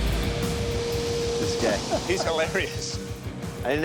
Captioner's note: laughs